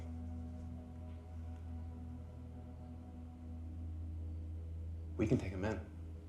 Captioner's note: tense music; crickets chirping